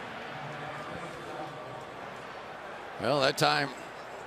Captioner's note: pa announcement